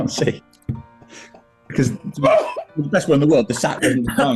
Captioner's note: laughing